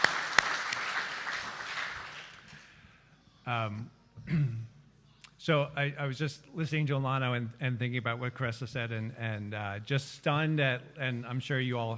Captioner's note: applause